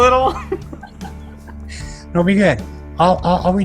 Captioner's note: laughs